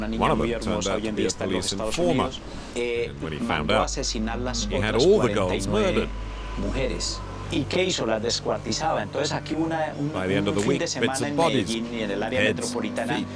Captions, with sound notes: One of them turned out to be a police informer. When he found out, he had all the girls murdered. [Spanish spoken audio] By the end of the week, bits of bodies, heads, and feet